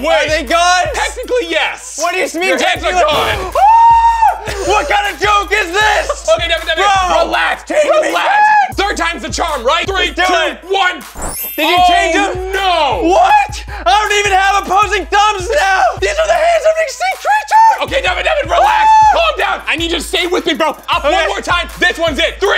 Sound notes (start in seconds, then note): 3.2 screaming; 11.1 magical chimes